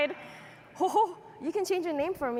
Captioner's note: chuckles